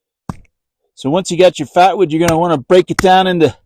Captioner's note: axe chopping